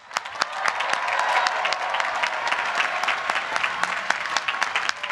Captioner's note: applause